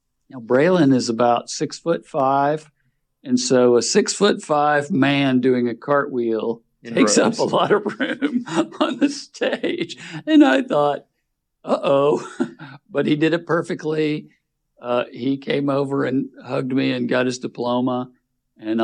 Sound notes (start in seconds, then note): 9.6 laughing; 11.7 chuckles